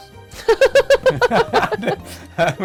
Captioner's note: laughs